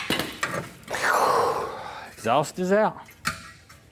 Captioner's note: exhaling